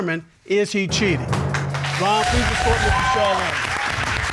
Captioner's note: all applauding